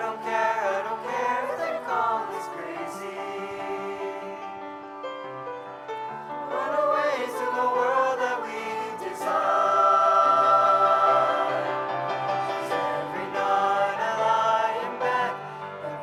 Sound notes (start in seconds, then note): none